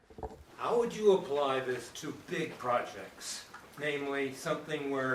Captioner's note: voiceover